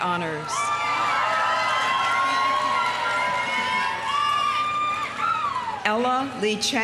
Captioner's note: audience cheering; audience applauding